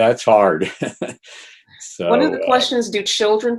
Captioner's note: laughs